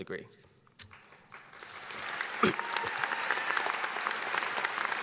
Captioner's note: audience applauding